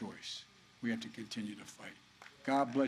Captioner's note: applause